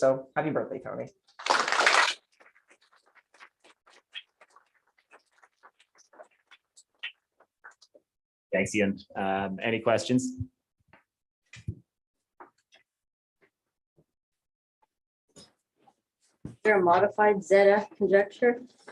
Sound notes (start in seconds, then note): 1.4 applause